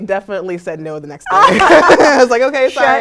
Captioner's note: laugh